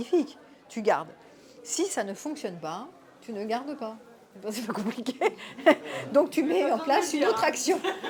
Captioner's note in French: rires